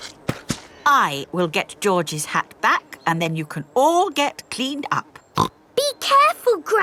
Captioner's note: snorts